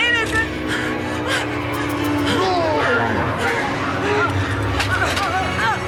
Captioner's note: gasping; ghostly shouting over tense electronic music; Nicolette gasping